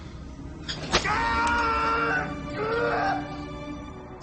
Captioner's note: man screaming